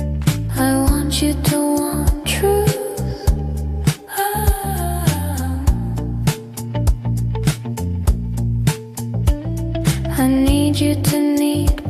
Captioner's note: aaahhh